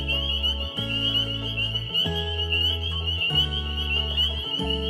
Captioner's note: frogs peeping